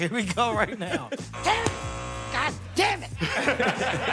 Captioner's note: buzzer sounds